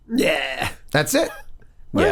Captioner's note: Charlie exclaims